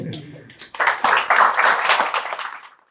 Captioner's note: laughs; audience applauding